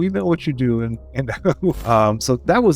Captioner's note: laughs